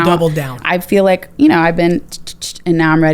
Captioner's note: tsks